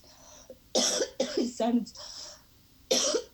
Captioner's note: coughing